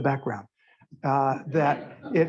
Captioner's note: laughter